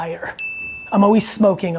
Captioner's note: bell dinging